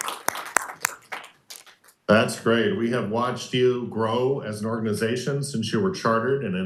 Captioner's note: applauding